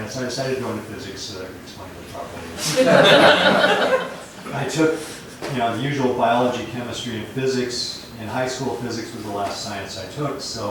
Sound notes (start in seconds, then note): 4.1 laughter